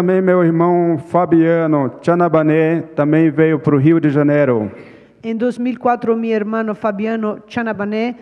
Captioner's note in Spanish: Ponente habla en portugués